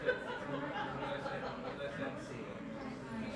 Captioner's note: laughing